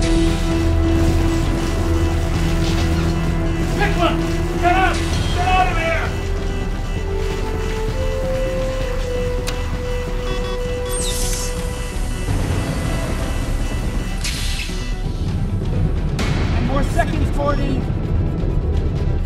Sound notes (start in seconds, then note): 0.3 alarm blaring; 0.3 suspenseful music; 9.4 button clicks; 9.4 keypad beeping; 10.9 door hissing; 13.6 suspenseful music continues